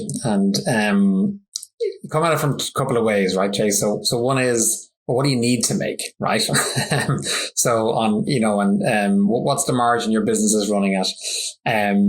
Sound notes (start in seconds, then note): 6.4 laughs